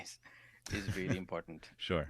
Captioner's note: laughs